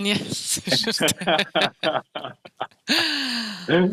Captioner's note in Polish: śmiech